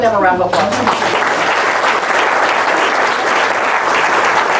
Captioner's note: audience claps